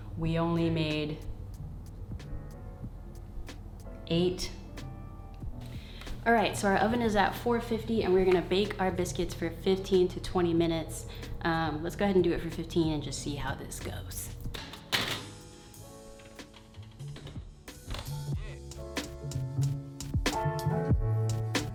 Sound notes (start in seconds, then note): 14.8 tray thuds; 18.1 relaxed chill-out music